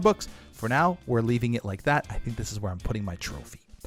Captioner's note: hushed